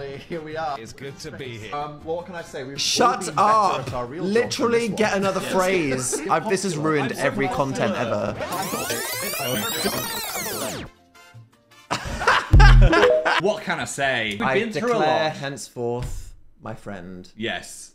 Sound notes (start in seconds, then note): 8.4 video squeals fast forwards; 11.9 Dan laughs